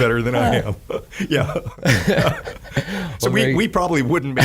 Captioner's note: laughing